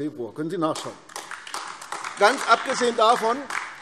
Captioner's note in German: Beifall AfD